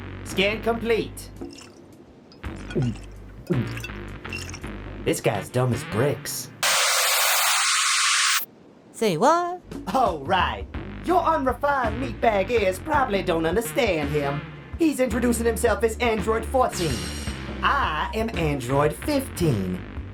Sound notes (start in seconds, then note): 2.3 glug ~ glug; 2.5 glug